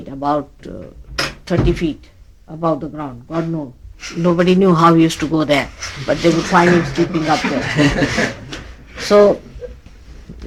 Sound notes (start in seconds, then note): 5.9 laughs